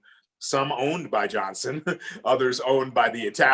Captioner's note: chuckles